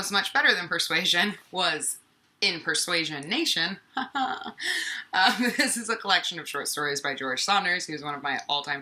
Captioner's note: haha